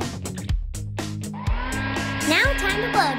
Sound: hair dryer whirring

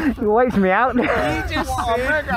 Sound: laughs

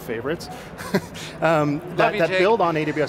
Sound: laughing

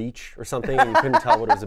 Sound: laughs

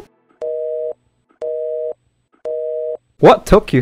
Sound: phone Hang Up

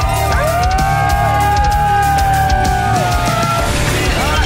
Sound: crowd; dramatic music; crowd; dramatic music

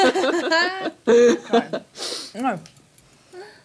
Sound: laughter

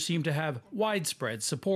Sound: speaking Foreign Language

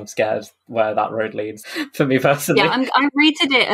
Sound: laughing

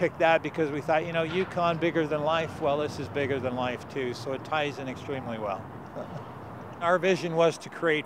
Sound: chuckles

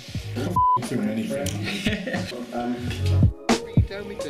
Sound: laughs

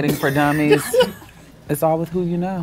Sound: laughs

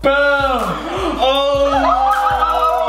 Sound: gasps; laughs

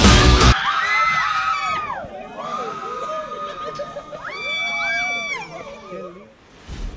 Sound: screaming

